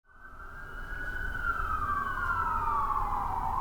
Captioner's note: police sirens